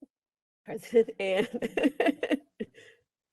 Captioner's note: laughs